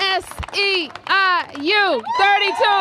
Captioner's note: applause